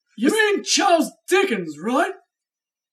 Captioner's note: none